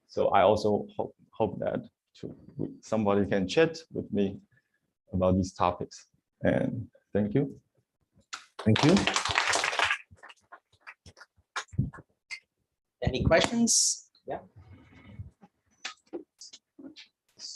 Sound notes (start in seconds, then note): 8.3 applause